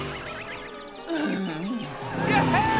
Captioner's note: groans miserably